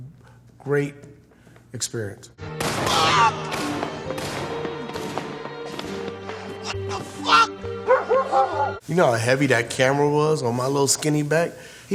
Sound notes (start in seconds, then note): 2.5 gunshots being fired; 2.8 character screaming; 7.7 dogs barking